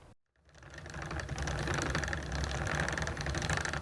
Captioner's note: spokes rattling